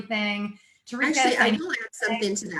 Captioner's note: murmurs